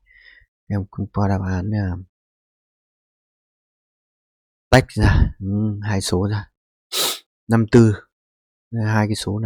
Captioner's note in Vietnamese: khịt mũi